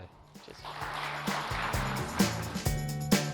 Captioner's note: applause